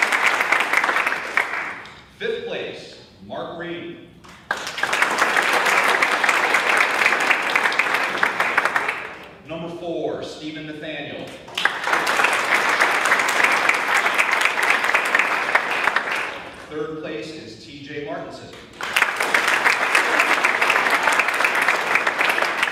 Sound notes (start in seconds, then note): 0.1 audience claps